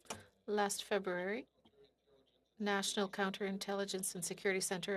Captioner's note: speaking French